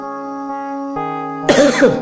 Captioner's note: cough